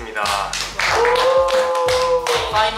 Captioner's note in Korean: 박수 짝x3